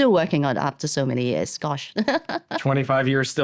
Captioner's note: laughs